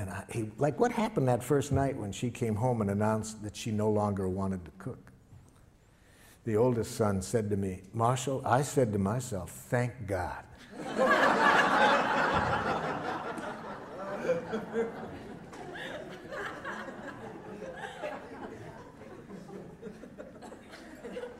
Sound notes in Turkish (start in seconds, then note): 14.8 Gülüşmeler